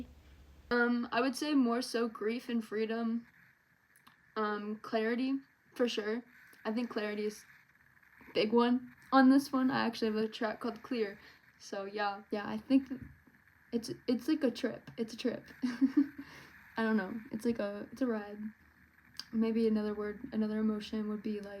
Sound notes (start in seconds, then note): 15.6 giggles